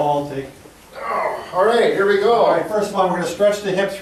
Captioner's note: groans